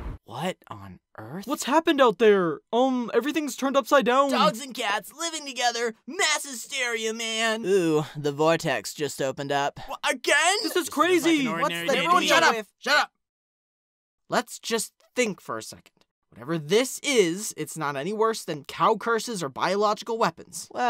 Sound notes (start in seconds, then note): 10.2 they bicker